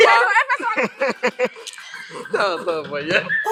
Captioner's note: everyone laughs